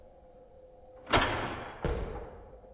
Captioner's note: bang